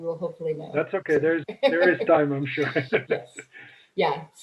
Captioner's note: laughs